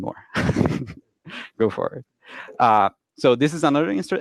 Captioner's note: chuckles quietly